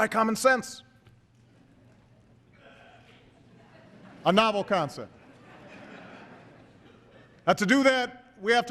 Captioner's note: laughter